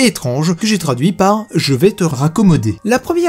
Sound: in french

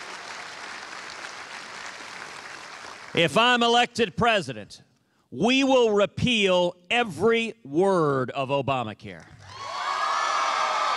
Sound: cheers and applause

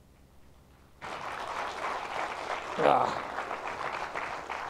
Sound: applause

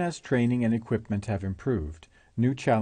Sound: voiceover

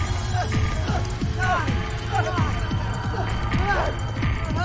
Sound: terrified panting

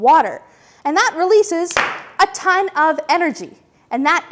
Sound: pop

